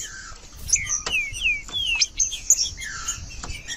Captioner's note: trinca ferro cantando